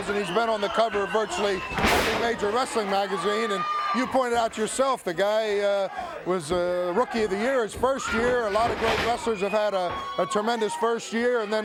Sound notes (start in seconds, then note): 1.7 body thudding; 8.1 blows thudding